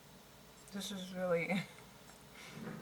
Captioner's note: laughs